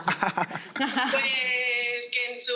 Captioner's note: laughter